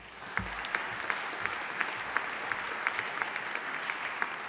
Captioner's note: audience applauding